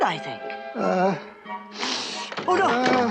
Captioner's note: sniffs